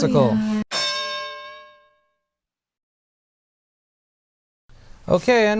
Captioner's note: bell